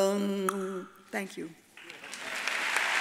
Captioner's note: tongue clicks; audience applauds